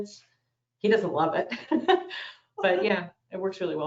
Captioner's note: laughs